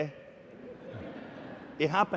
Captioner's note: laughter